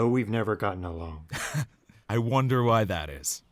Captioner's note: scoffs